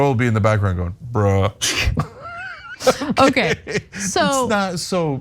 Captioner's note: laugh